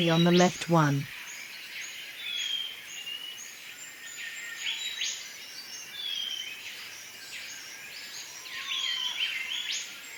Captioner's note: birds sounds and chirps